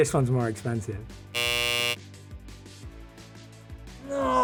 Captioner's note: buzzer buzzes